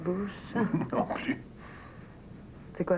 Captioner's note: Il rigole